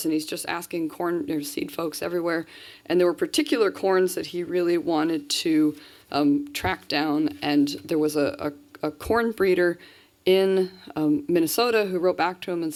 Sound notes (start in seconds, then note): none